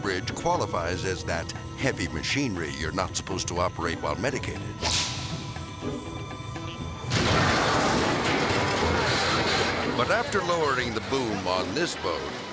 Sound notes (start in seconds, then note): 6.2 tense dramatic music; 7.1 metal clanging and crashing